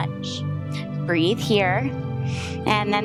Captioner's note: inhales